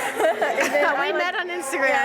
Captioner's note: laughter